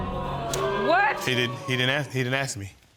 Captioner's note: audience exclaiming